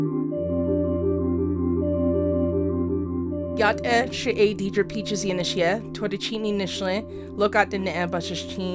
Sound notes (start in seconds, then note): 3.6 speaks foreign